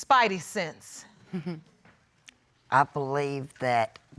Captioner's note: chuckles